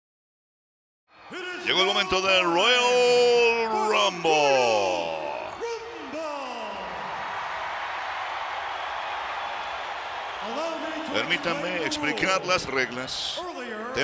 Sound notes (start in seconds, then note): 5.4 applause